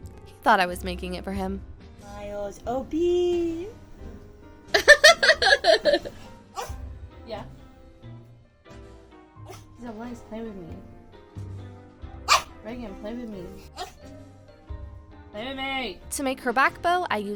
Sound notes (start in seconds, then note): 4.7 laughs